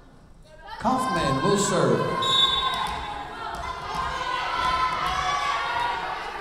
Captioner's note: whistle blowing